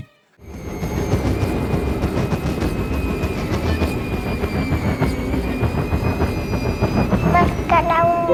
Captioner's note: wind and train noises